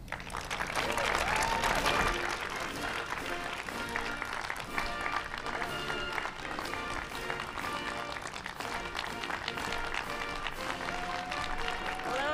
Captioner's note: applause